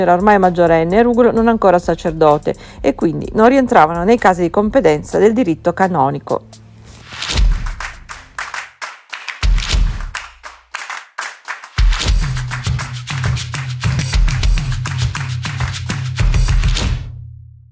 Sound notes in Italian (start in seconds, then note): 7.4 Applauso